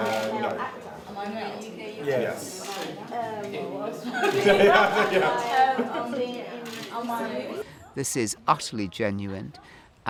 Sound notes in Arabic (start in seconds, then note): 0.9 كلاهما يضحك